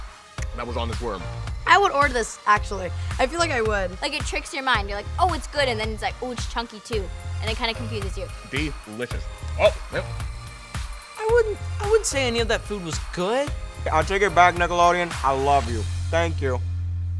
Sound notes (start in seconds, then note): none